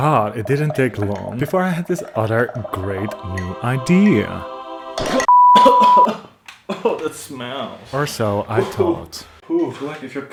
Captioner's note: peep